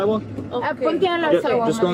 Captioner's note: speaking in a foreign language